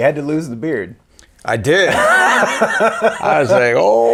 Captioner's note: laughing